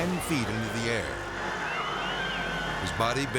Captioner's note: spectators scream